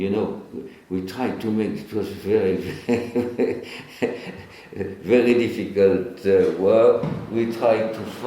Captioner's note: chuckles